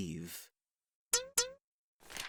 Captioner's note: tap tap